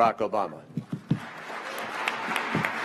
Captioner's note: cheers and applause